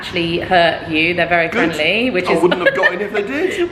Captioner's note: laughs